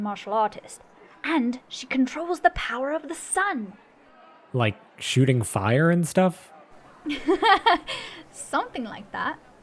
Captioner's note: laughing